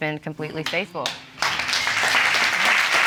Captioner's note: audience applauding